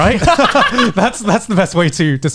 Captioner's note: both laughing